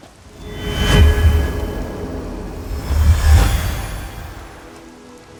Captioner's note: magical hum